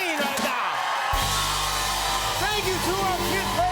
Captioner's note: cheers and applause